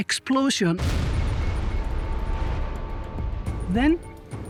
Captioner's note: sound of explosion